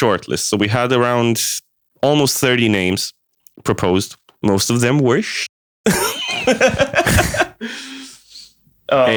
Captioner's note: laughs